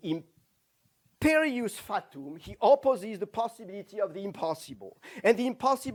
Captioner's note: non-english